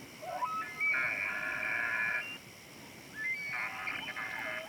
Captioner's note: elk bugles